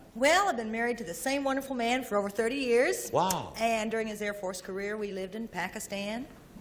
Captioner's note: none